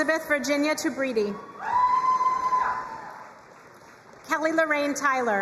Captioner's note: crowd cheering and applauding